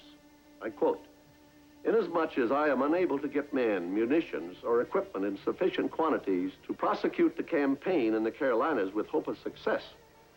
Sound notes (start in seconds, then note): none